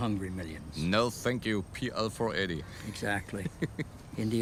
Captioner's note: laughs